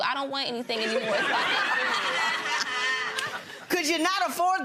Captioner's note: gallery laughs